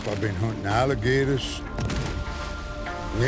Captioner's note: gunshot